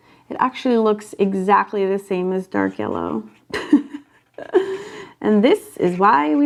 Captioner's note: chuckles